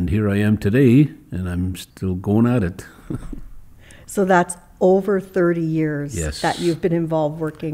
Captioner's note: chuckles